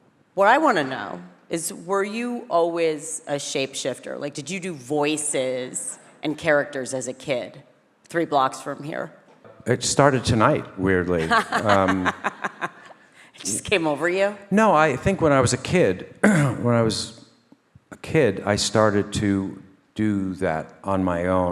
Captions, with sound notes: What I wanna know is, were you always a shapeshifter? Like did you do voices and characters as a kid? Three blocks from here. - It started tonight, weirdly. [laughing] - It just came over you. - No, I think when I was a kid, [clears throat] when I was a kid, I started to do that on my own.